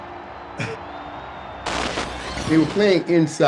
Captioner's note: crowd cheering